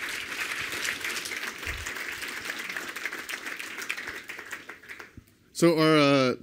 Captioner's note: applause